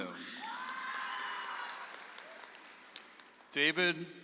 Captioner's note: audience applauds